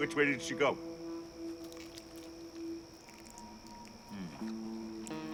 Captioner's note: birds chirping